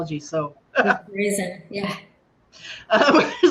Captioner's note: laughter